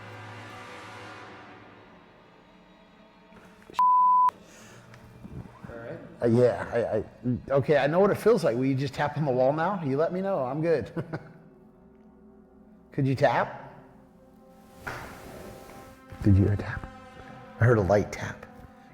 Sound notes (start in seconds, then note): 1.3 music intensifies; 10.9 chuckles; 14.8 tap